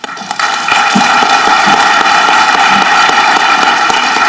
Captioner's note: audience clapping